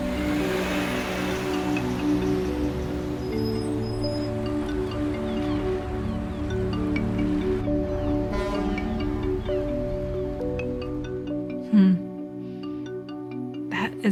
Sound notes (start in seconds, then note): 4.8 seagulls chirping; 7.6 boat horn blares